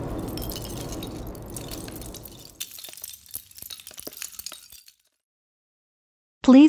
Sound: 💥 Explosion 💥; 🗦 Sound of LEGO blocks falling 🗧

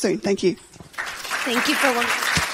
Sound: audience applauding

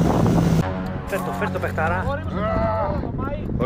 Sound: intro video sounds

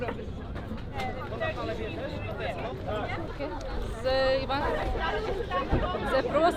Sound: loud talking

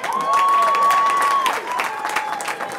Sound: cheering

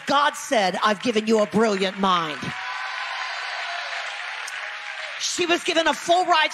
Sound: audience applause

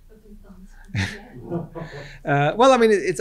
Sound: group laughs

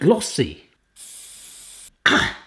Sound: spraying

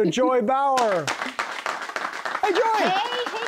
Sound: applause

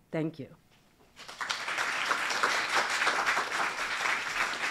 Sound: applause

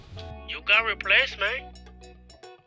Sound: voiceover

